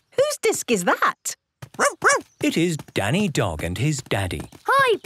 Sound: barking

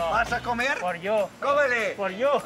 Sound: speaking Spanish

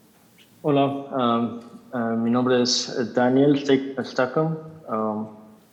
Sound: translator speaking in Spanish

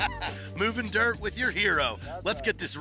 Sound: laughs

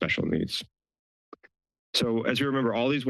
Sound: pause

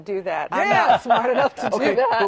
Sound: laughter

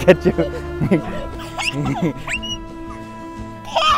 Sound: laughs

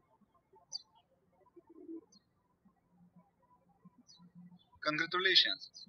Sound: birds chirping

